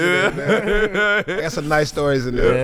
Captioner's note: laughing